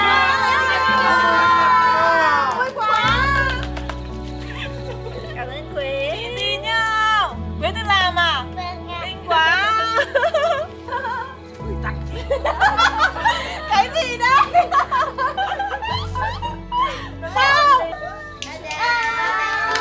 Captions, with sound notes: Happy Birthday to Mo! Thank you, Que. Did you make it? Yes! So beautiful! Oh, what is it? (laugh)